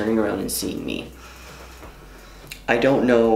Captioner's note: inhales